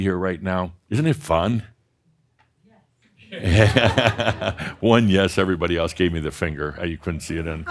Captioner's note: someone says “Yes” and some laughter